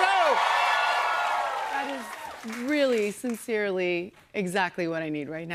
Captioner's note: cheers and applause